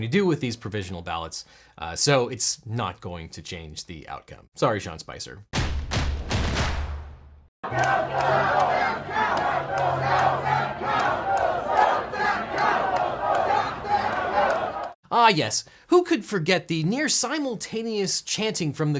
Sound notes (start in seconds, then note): 5.5 dramatic percussion; 7.6 crowd